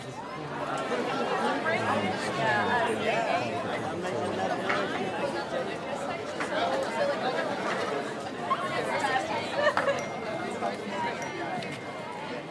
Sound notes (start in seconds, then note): 0.8 indistinct chatter; 9.7 phone chiming